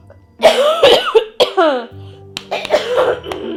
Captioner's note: woman coughs